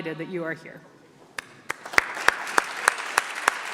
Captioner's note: clapping